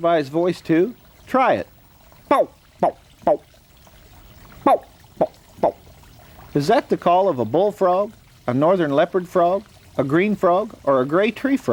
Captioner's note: frog call